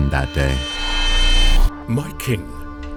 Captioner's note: flashback whoosh